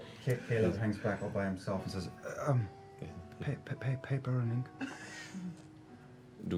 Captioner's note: stuttering